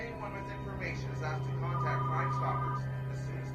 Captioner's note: phone ringing